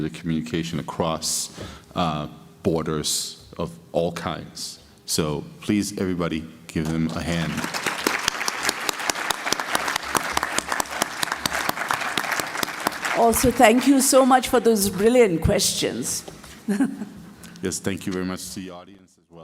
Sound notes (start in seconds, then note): 6.9 applause